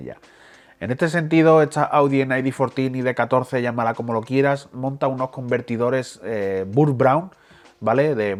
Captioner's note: Spanish